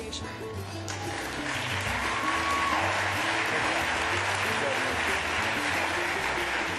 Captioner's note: upbeat music; applause